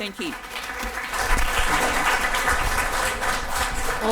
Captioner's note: audience applause can be heard